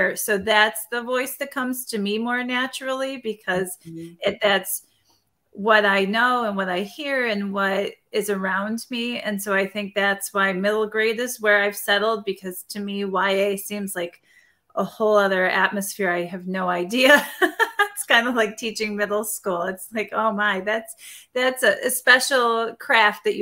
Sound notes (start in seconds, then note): 17.1 laughing